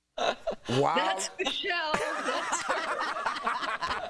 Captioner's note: laughter